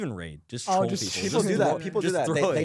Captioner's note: laughs